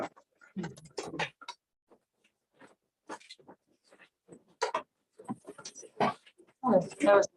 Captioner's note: indistinct conversation